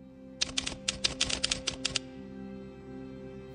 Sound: typing

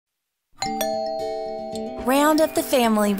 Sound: door bell rings

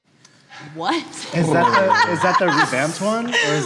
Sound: all groaning

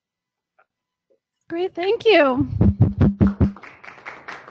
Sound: applause

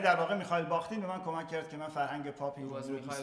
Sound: speaking in farsi

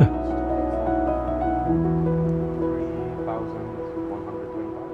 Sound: faint chatter

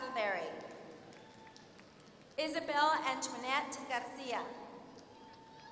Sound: applause; applause

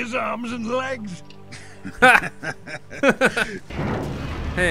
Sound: laughs

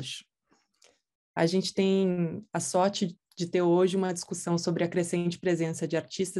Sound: speaking in Portuguese

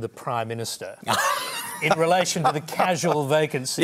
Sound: laughs

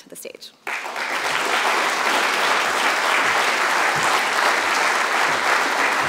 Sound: applause

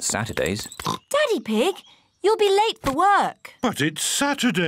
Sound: oinks

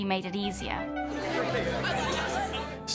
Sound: chattering

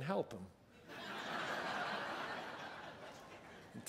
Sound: laugher

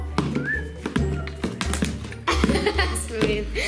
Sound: laughs

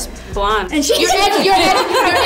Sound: laughs

